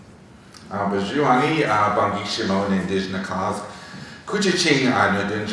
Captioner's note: speaking foreign language